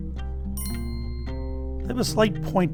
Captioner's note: bell chimes